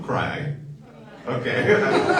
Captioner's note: audience laughs; laughing